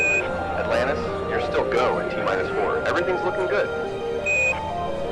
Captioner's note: over comms